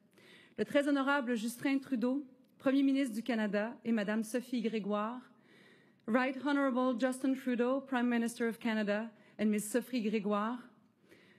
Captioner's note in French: voix de l'interprète